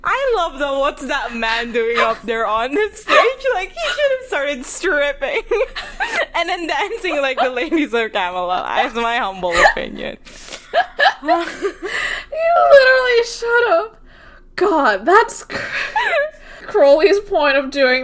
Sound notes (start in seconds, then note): 3.0 both laughing; 5.6 laughing